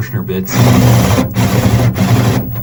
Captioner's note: banging